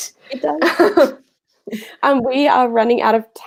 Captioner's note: laughing